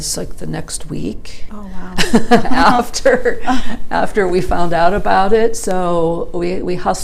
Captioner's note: starts laughing